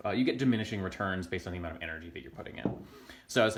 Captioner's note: clunk